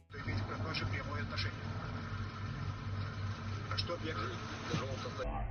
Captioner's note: man speaking in foreign language